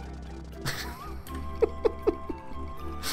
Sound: giggles

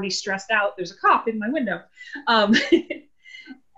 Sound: laughter

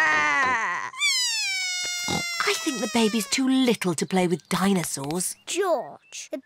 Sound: bawls

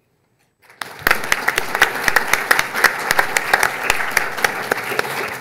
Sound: audience clapping

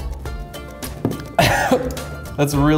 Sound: coughs

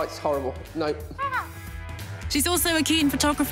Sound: imitating bird call

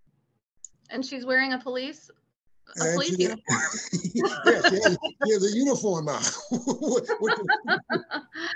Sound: laughter

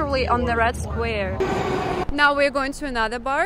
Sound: train

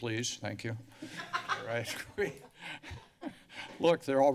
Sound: laughter

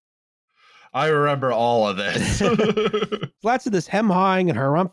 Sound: laughs

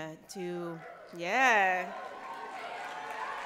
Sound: cheers

